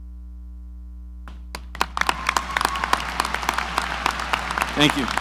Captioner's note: audience applauds